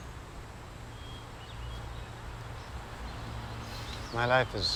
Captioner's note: birds chirp